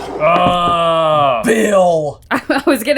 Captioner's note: groaning